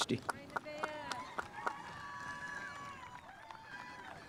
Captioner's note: spectators applauding